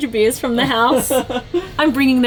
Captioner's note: laughing